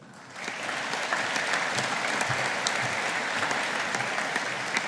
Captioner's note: audience applauding